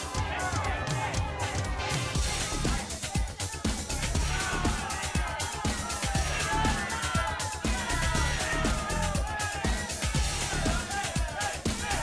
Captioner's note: crowd cheering